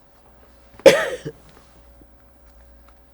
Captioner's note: coughing